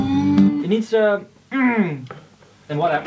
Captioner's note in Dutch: ernghh